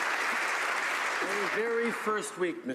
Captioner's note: some Applause